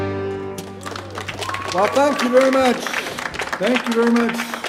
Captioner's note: audience cheering; audience applauding